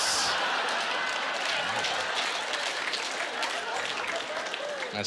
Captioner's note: cheers and applause